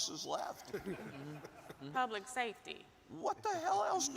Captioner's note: audience chuckles